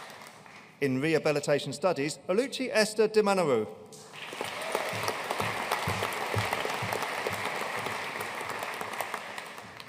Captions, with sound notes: In Rehabilitation Studies, Oluchi Esther Dimanoruo. (AUDIENCE CHEERING AND APPLAUDING)